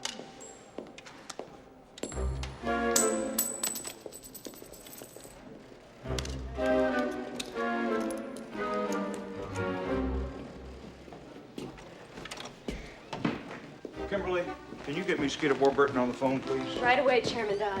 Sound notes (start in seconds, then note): 2.9 coin Clanging